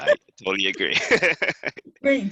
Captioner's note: laugh